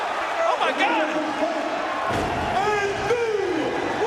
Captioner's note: announcer vocalizing